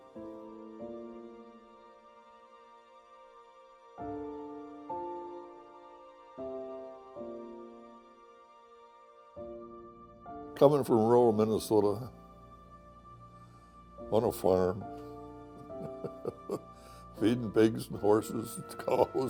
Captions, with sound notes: Coming from rural Minnesota, on a farm... (chuckles) feeding pigs, horses, cows.